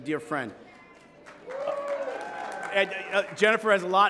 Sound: applause

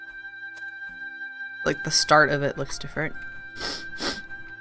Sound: sniffles

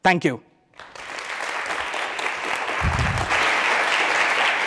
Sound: applause

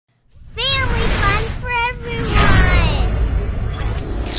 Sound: voiceover

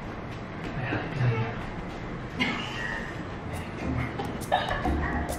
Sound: laughing

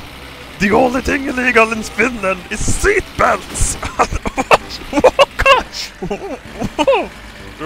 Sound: laughs

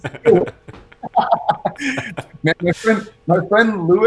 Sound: laughs

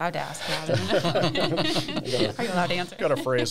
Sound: all laughs

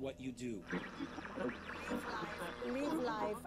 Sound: tv static

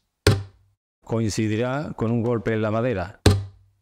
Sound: tap

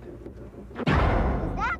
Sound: loud, short bang

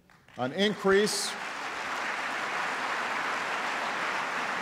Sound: applause

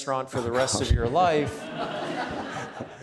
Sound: laughing; audience laughing

